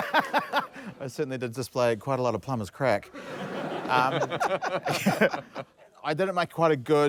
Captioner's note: laughs; all laugh